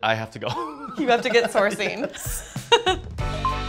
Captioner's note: laughs